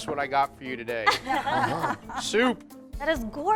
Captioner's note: all laughing